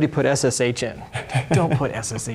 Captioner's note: laughing